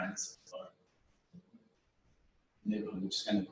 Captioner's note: pause